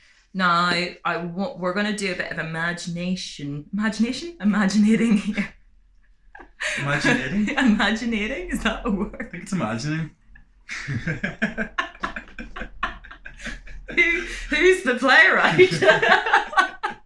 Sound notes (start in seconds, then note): 10.7 laughter; 16.7 laughing